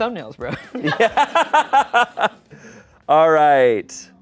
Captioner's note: laughs